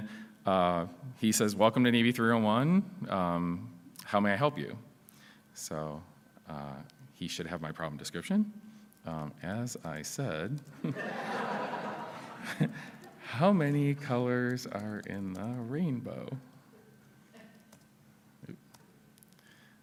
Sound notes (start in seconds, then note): 10.8 laughs